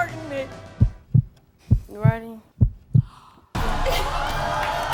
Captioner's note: deep thumping; audience yelling